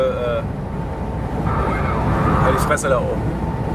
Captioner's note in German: geräusch am funk